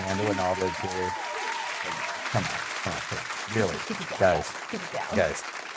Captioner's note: applause